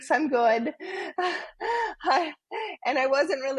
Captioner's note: laughing